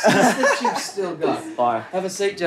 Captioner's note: laughter